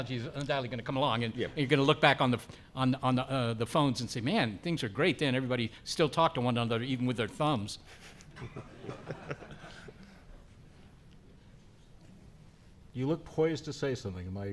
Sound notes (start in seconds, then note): 7.8 chuckling